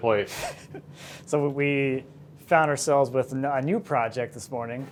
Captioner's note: laughs